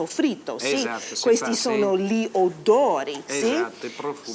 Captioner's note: speaking Italian